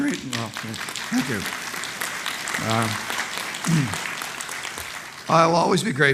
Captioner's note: applause